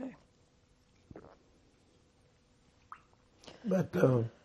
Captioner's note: drinking